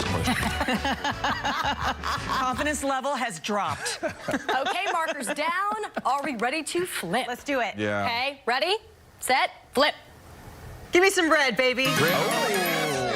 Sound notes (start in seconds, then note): 3.7 laughter